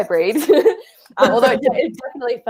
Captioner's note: both laugh